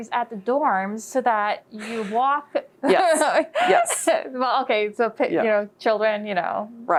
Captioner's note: laughs